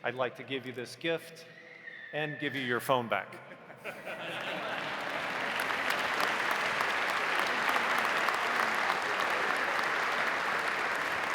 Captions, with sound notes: I'd like to give you this gift and give you your phone back. (audience laughs) (audience applauding)